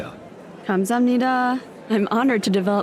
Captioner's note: in Korean